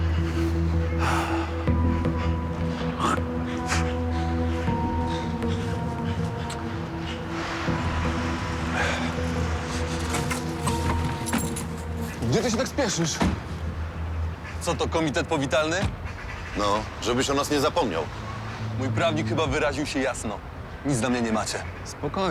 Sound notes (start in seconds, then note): 1.0 sighs with relief; 3.1 spits loudly